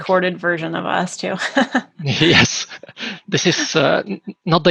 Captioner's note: laughs